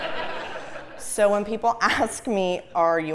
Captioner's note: laugh